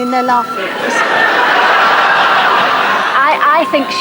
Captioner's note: audience laughter